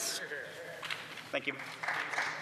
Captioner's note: speaking French